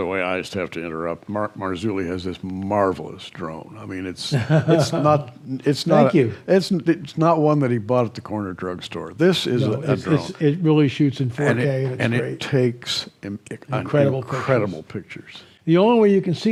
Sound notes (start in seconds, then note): 4.3 chuckles